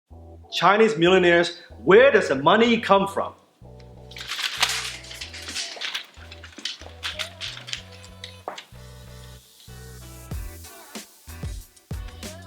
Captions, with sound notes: - Chinese millionaires where does the money come from? (fluttering money)